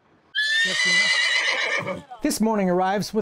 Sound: he laughs; horse neighs

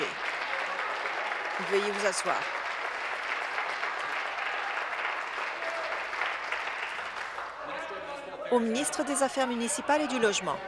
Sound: applause

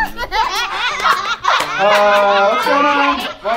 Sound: laughter begins

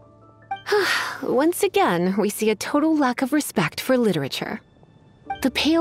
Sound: sigh

